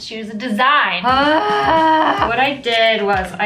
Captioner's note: groaning